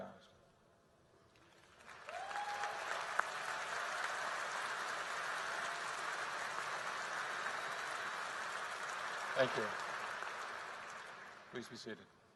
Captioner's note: applause